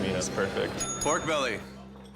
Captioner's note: bell dinging